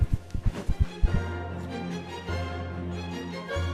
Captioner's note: heart beats stop